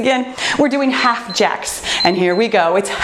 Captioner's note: timer beeps